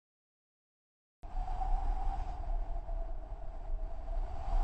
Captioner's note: wind whistles